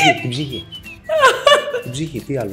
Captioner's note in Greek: γέλια